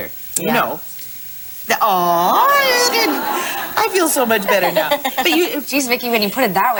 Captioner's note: laughing